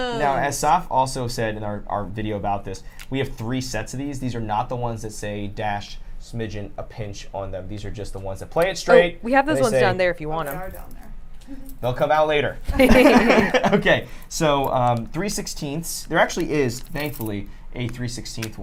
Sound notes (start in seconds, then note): 12.7 laughter